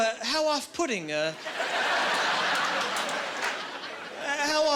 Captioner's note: laughing